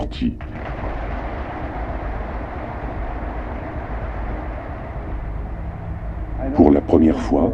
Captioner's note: applause